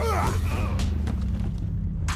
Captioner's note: men grunting